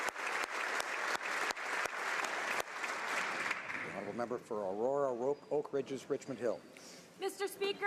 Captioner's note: applause